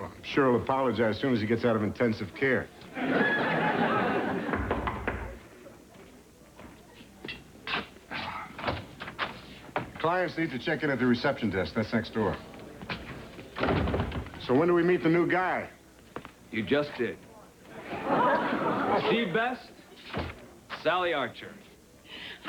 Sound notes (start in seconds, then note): 4.5 knocking on door